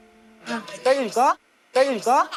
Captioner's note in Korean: 하압